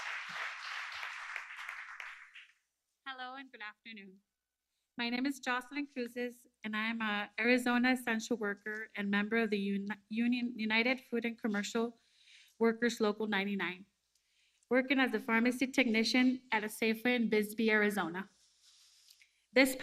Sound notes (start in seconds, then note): 3.0 applause